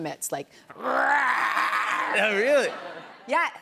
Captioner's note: growls loudly